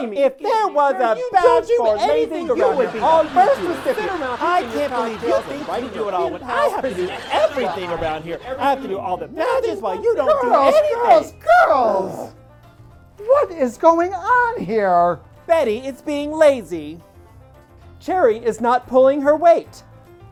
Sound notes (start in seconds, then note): 10.0 more arguing